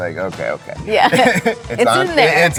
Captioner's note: both chuckles